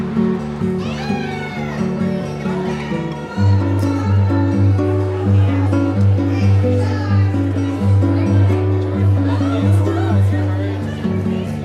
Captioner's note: indistinct conversations